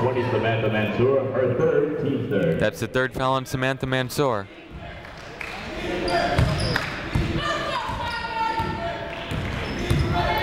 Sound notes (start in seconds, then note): 5.3 people chanting in the crowd